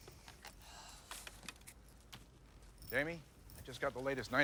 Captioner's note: Jamie sighs